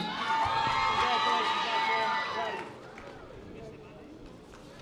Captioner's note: audience applause